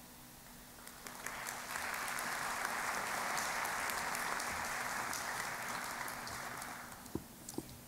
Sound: applause

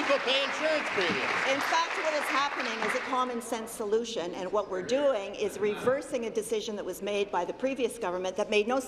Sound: applause

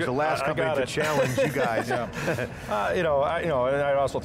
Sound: laughing

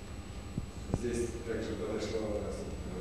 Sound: non-english speech

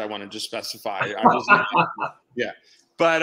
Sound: laughing

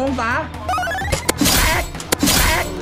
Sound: gunshot firing

